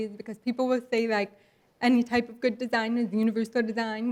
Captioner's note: none